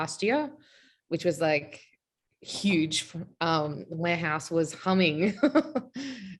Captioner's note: laughing